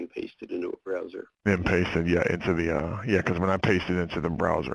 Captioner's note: voiceover